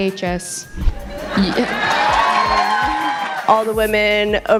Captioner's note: uproarious applauding